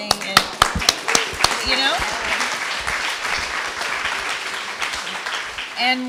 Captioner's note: applause